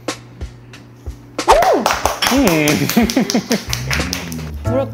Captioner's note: applaud